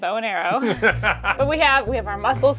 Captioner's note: laughing